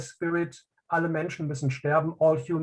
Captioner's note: speaking in native language